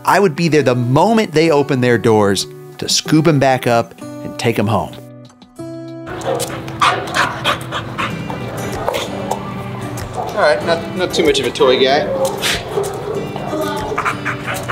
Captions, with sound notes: I would be there the moment they opened their doors to scoop him back up and take him home. (Champ panting) All right. Not too much of a toy guy.